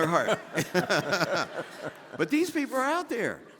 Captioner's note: all laughing